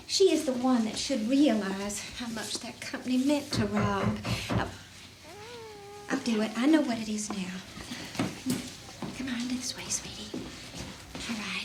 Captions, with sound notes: she is the one that should realize how much that company meant to Rob. (Matthew knocking) Oh, I'll do it, I know what it is now. Come on, this way, sweetie, alright.